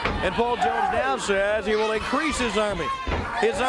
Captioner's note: crowd cheering